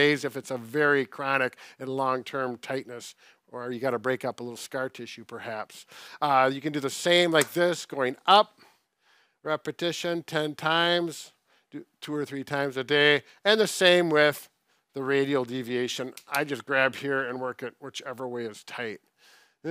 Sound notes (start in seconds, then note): none